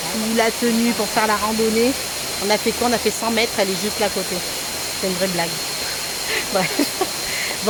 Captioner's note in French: rires